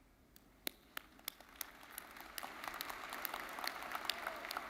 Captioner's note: audience applauding